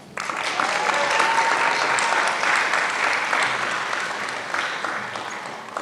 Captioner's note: applause